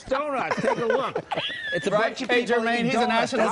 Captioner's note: laughing